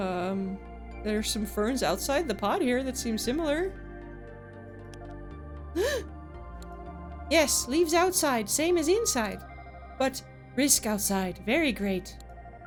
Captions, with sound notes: Um, there's some ferns outside the pod here that seem similar. [Gasp] Yes, leaves outside, same as inside. But, risk outside, very great.